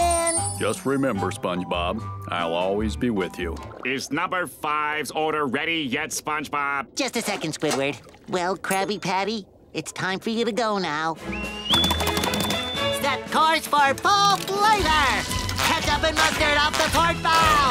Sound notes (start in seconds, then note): none